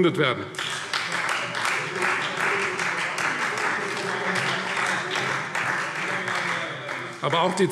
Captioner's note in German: Beifall Freie Demokraten